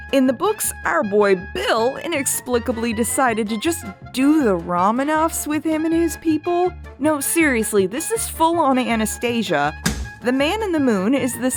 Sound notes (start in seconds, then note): 9.8 thump